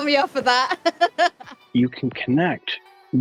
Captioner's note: laughter